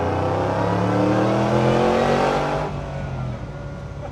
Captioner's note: car engine roars